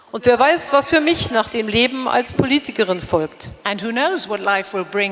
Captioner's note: speaking in German